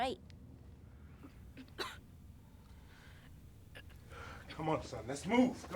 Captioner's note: coughing,</i> <i> Gagging